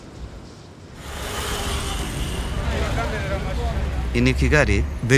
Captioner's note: motorbikes humming